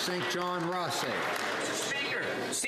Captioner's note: some Applause